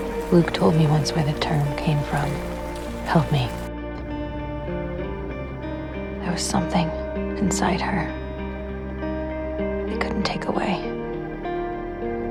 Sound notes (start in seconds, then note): 0.3 voiceover; 6.3 voiceover; 10.0 voiceover